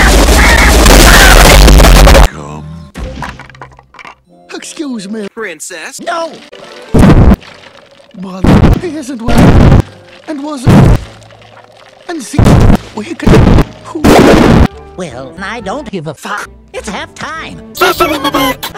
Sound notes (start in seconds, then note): 0.0 loud Impact; 2.9 sticks Collapsing; 7.0 thump; 13.2 wobble; 13.3 thump